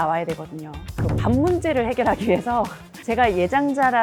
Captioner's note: dun-dun sound effect